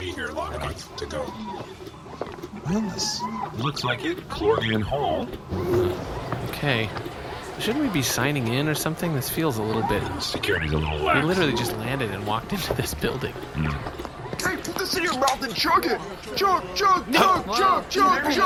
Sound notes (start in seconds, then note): 13.6 noise of agreement; 17.5 people chanting “Chug!” in the background